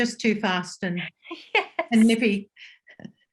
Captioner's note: chuckles